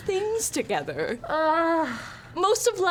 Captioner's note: groans